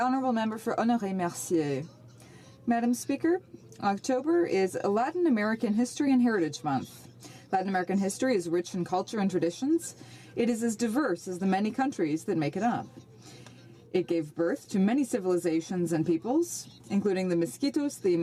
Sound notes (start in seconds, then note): 11.5 speaking French